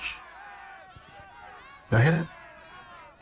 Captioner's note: crowd yelling